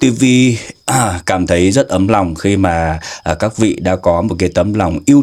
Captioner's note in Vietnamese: hắng giọng